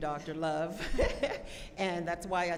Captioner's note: laughs